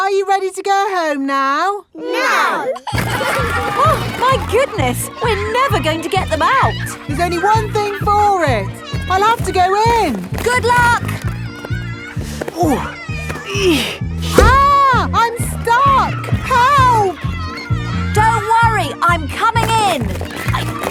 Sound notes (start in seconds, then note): 3.0 giggling; 12.6 grunting